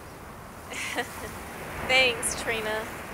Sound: laughs

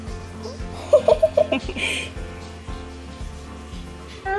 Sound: laughing

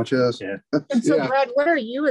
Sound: laughs

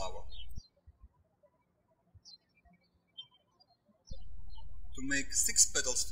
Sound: birds chirping

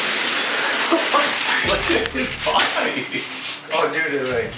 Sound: laughing

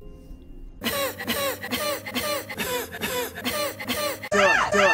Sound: laughs X8

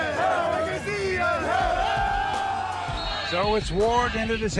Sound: cheers

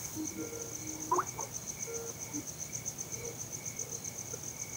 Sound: computer ringing

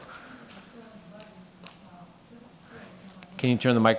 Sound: faintly speaking

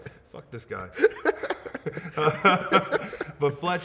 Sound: both laugh

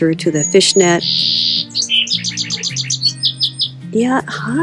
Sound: bird chirping

